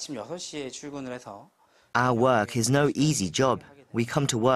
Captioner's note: Korean